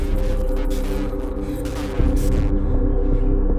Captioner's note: distorted voice